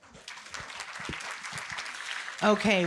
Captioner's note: audience applauding